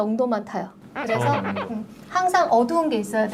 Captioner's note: Scratch